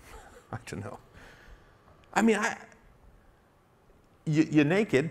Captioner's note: self-satisfied laugh